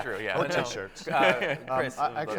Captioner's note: laughs